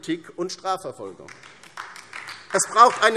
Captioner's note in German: Beifall